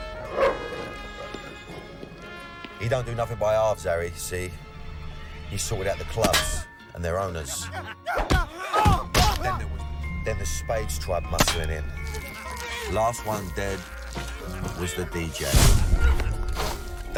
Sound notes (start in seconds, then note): 0.2 dog barks; 7.5 man grunts